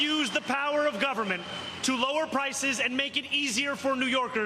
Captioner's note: cheers and applause